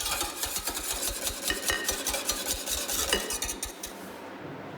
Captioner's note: whisk whizzing